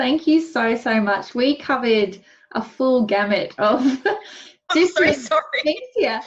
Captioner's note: laughs